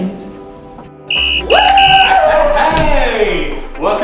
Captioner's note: whistle blowing; cheering